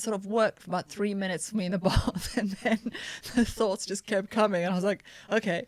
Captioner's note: laughter